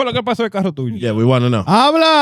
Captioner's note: speaking In Foreign Language